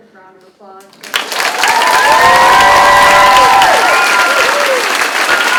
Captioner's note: crowd claps and cheers